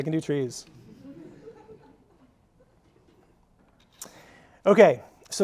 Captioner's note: audience laughing